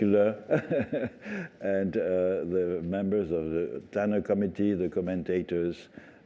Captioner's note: laughter